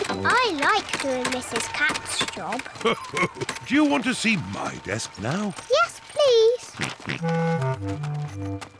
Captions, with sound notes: I like doing Mrs. Cat's job. (LAUGHS) Do you want to see my desk now? -Yes, please. -(GEORGE OINKS)